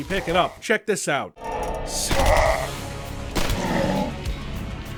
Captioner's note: Mage: mutters but is cut short by crossbow bolt